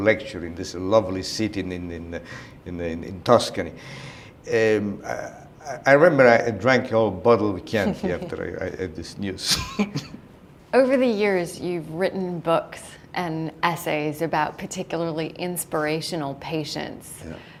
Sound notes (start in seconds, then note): 9.5 chuckle